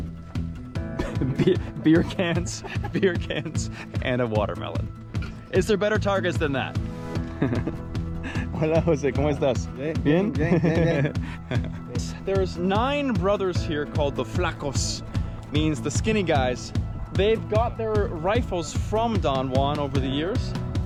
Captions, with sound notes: Beer cans. Beer cans and a watermelon. Is there better targets than that? (chuckling) (speaking Spanish) - (speaking Spanish) - There's nine brothers here called the flacos. Means the skinny guys. They've got their rifles from Don Juan over the years.